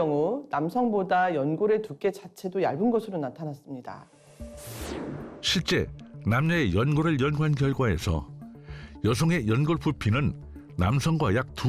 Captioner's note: voiceover